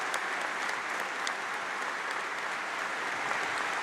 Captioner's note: applause